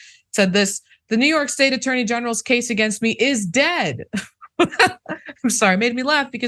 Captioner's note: laugh